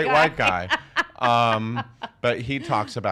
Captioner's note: laughing